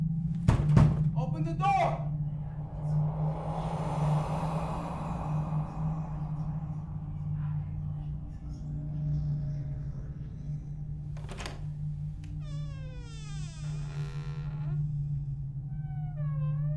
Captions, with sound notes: (pounds on the door) Open the door! (disembodied whispers) (gentle, ominous music) (door rattles) (creaks)